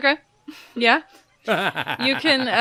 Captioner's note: laughter